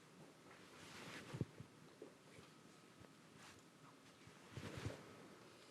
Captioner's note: shuffling and whispering